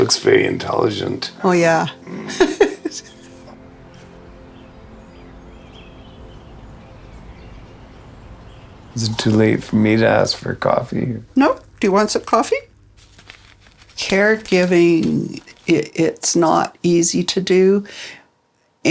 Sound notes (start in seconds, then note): 1.9 laughing; 4.1 birds chirping